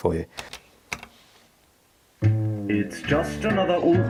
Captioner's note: buttons clicking